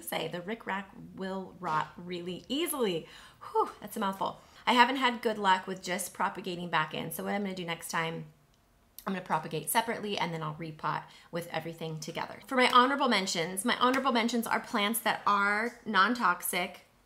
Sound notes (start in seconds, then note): 3.5 sighs